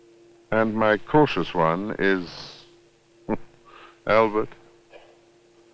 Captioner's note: chuckles